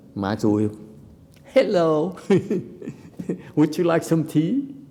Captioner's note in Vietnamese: laughter